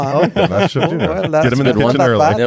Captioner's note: laughs